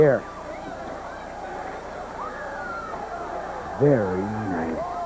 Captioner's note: crowd cheering